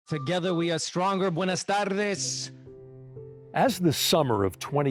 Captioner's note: speaking in a foreign lanuage